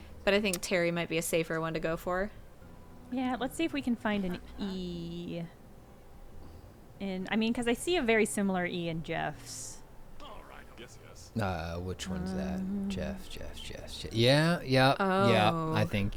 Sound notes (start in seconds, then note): none